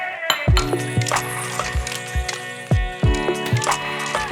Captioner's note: dish clinks